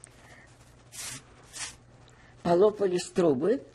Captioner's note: wiping nose